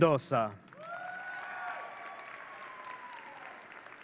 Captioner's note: audience cheering